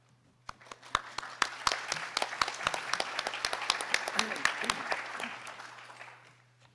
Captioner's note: audience applauding